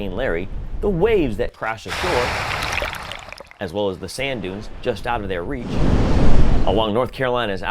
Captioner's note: wave sound; wind noise